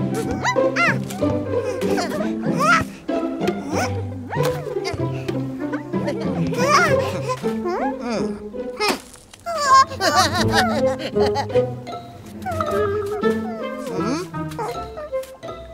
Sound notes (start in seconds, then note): 0.9 happily; 2.5 happily; 7.0 happily; 9.3 laughing; 12.3 crying